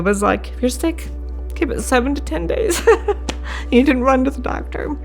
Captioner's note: laughs